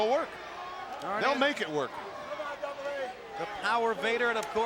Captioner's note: crowd clamoring